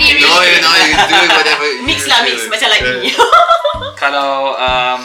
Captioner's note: laugh